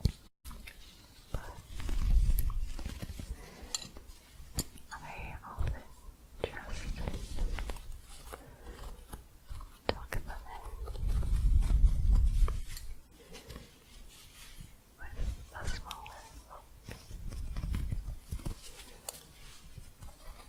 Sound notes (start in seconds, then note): 11.1 soft scratching and shuffling; 18.0 soft scratching